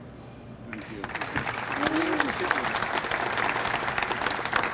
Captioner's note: audience applauds